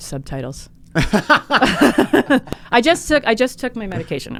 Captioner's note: both laughing